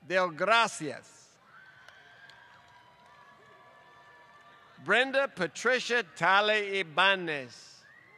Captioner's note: applause; applause